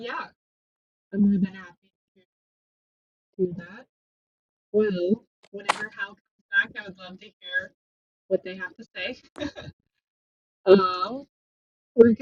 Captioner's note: laughter